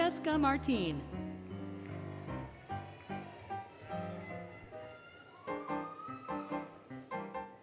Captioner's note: applause, Cheering, Music